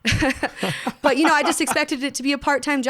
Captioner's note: laughs